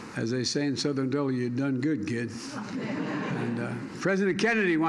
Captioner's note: laughter